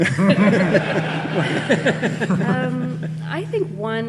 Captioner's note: audience laughing